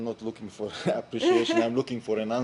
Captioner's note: laughter